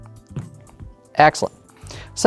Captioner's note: dice rolling; cup thuds